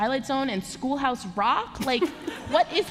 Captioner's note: laughter